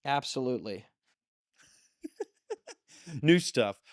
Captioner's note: laughs